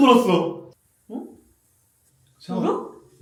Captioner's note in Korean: 갑자기 들리는 의 샤워기 소리